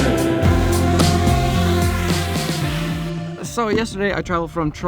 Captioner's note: drone buzzes